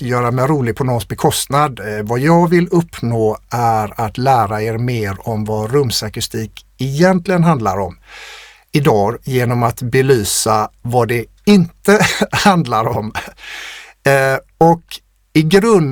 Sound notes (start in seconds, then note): 8.2 scoffs